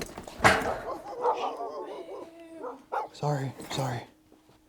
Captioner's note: dog barks